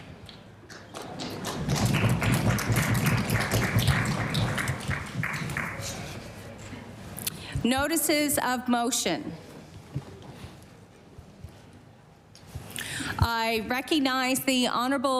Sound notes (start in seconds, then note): 6.2 some Applause